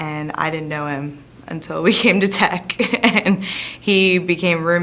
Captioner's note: laughs